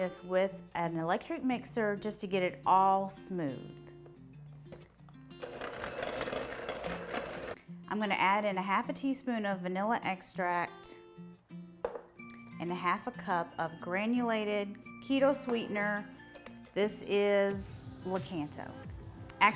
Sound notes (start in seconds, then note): 5.4 mixer whirs